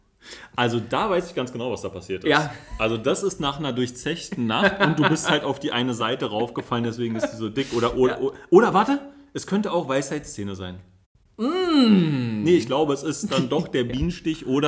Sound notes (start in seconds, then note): 4.1 laughs